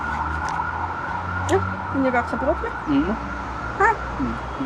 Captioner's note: in Swiss German